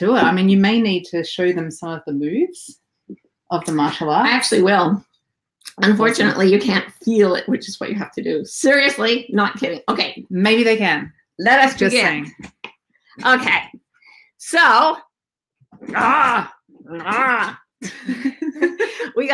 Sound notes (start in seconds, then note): 15.8 groans; 17.8 hosts laughing